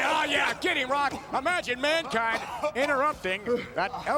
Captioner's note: The Rock coughing